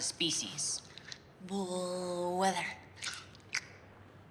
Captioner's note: chomps